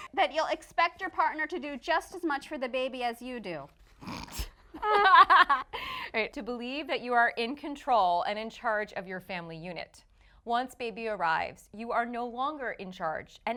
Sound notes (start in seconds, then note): 4.2 laughing